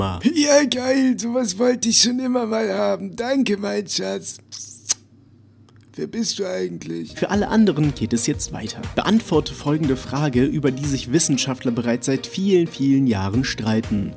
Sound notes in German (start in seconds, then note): 4.4 Kussgeräusch